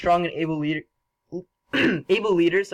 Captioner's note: cough